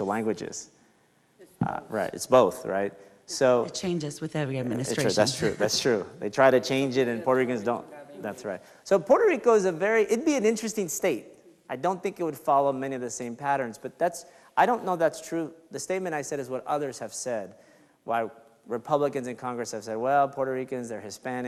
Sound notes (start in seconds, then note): 7.8 speaks faintly